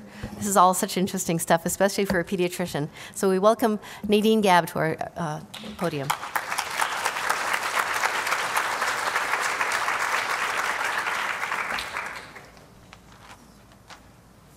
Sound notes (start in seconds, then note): 5.5 applause